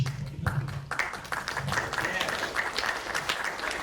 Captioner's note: audience claps